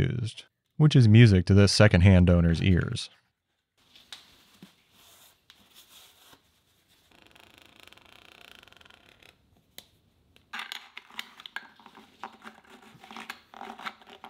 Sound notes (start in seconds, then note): 7.3 oil container clacking; 11.0 metal clinking